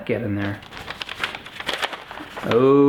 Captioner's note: paper Shuffling